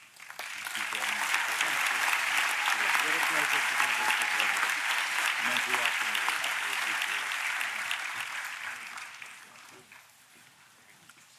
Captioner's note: applause